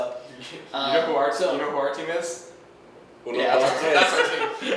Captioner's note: laughs